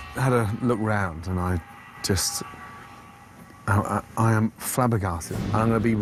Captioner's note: stammering